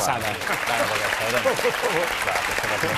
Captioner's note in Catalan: aplaudiments